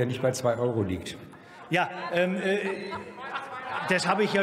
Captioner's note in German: Lachen bei Abgeordneten der SPD